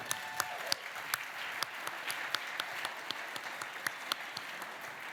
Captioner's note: cheering, applause